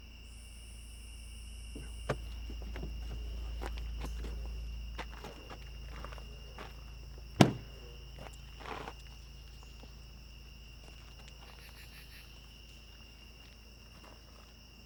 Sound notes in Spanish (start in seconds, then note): 9.1 gorjeos de los insectos